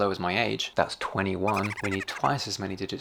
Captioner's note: chipmunk laughs